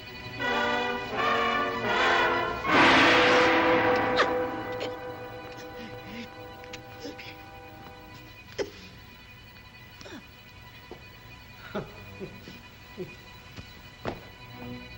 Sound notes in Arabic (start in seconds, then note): 0.2 موسيقى مشوقة; 3.7 أصوات تلهث; 8.7 موسيقى هادئة متوترة; 11.6 يضحك باستخفاف